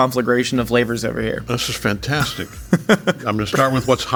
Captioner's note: laughing